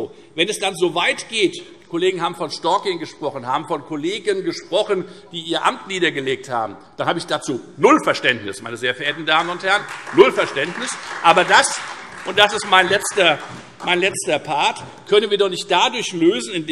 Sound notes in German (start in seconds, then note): 8.9 Beifall Freie Demokraten und vereinzelt SPD